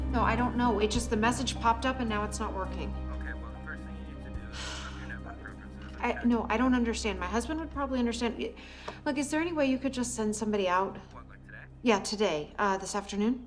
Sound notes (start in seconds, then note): 4.5 sighs